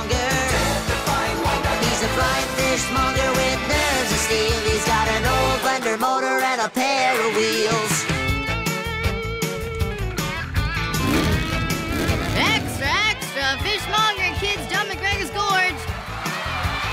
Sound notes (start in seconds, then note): 1.5 cheering; 10.8 vroom! vroom!; 16.7 cheering loudly